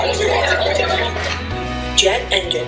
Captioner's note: propeller roaring